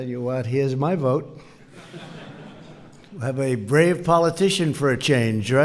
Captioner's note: laughter